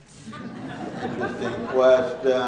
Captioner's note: laughing